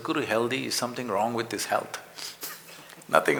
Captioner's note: laughs